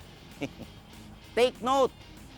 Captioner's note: laughs